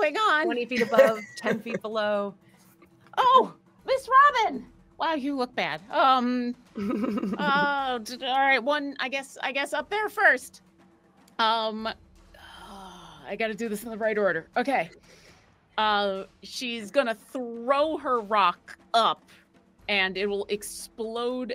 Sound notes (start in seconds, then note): 6.8 chuckles